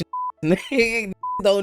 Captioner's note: beep